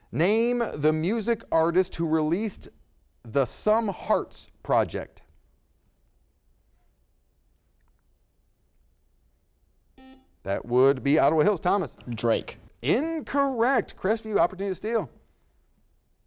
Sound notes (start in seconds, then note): 10.0 buzzer sounds